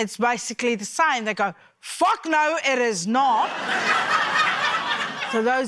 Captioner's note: laughter